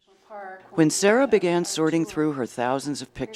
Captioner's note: voiceover